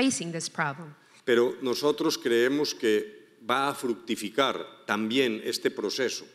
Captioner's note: speaking in foreign language